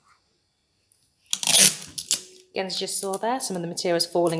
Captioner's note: sellotape squeaking